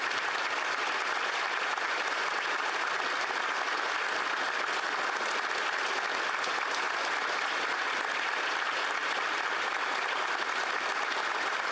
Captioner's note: applause